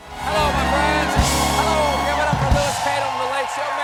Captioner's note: cheers and applause